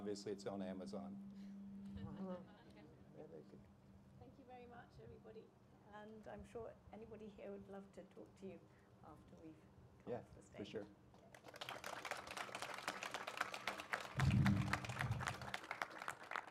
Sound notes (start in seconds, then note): 6.6 applause